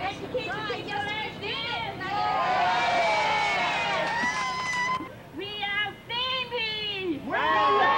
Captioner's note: crowd Cheers